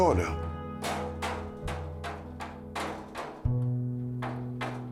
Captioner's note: hammer gently tapping